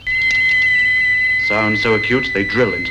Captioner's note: machine whistling